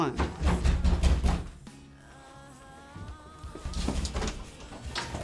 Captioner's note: door banging